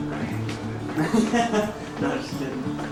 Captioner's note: laughs